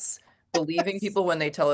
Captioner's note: laughs